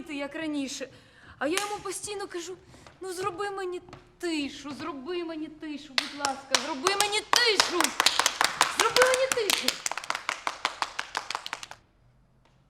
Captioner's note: applause